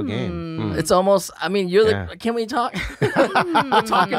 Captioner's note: laughs